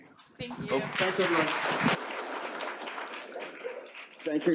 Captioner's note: applause